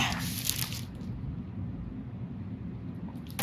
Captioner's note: pages rustling